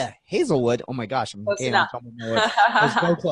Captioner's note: laughs